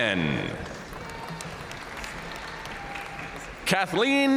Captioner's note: audience cheering and applauding